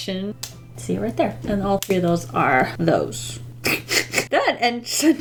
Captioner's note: laughs